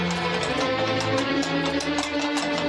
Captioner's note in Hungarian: lópaták kopogása